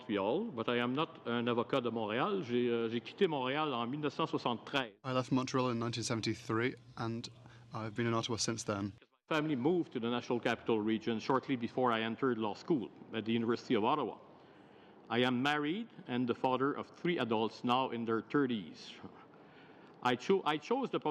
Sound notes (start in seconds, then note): 6.0 speaking french